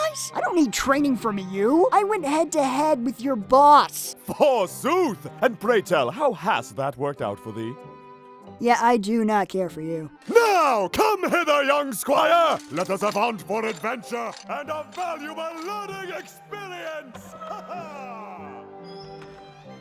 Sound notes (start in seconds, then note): 17.2 Godfree laughs